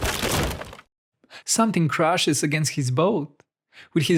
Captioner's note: bam!!!